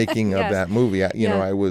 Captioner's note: laughter